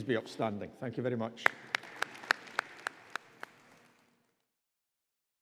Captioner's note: audience applauding